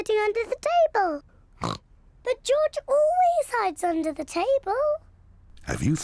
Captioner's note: snorts